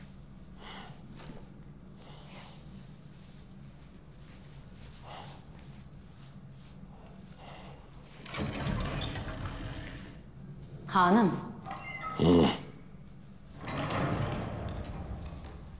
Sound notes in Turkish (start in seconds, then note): 8.1 Kapı Açılma Sesi; 13.5 Kapı Kapanma Sesi